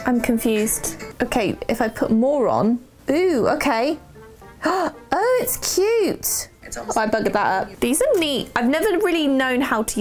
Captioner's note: gasp